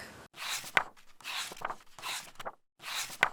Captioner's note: pages turning